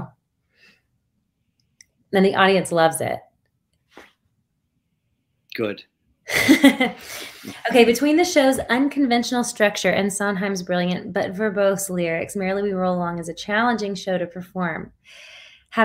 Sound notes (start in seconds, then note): 6.3 chuckles